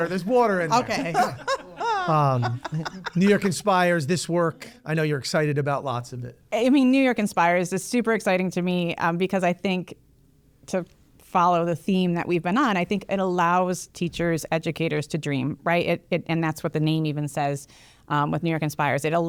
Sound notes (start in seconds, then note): 0.7 laughs